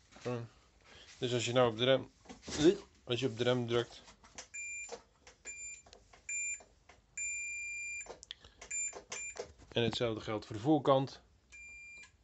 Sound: beep beep beep

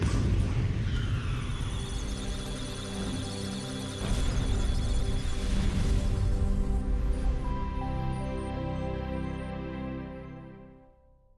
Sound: electronic sounds of data; musical Tones

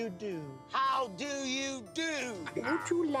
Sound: mimicking woman's voice; shouting

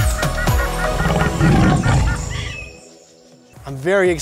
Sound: birds chirping; upbeat music; tiger growls

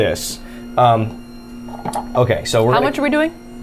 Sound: machine whirring

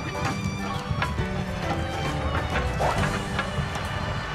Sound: steps

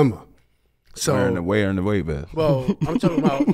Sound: laughs

